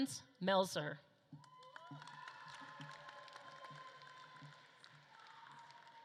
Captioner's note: audience claps and cheers